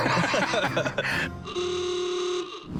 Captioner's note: laughter; car horn